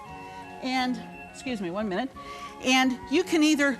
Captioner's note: alarm beeping